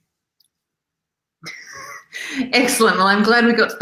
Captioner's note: laughs